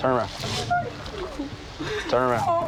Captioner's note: whimpering